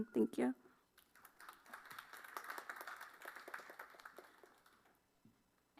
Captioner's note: applause